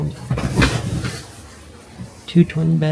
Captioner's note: door opens